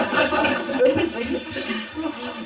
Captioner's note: laughter